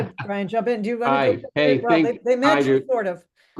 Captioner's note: chuckling